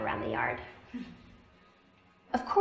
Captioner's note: laughter